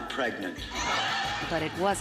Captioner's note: laughs